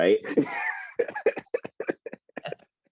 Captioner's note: laughs